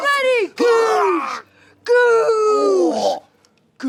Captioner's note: groans